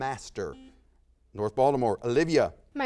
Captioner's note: buzzer sounds